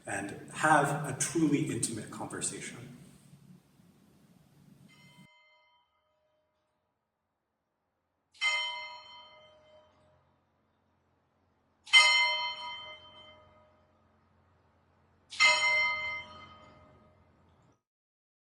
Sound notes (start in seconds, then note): 5.3 church bell chiming